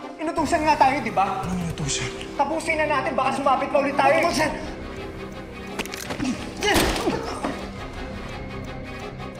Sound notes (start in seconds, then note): 6.2 groans; 6.5 gunshot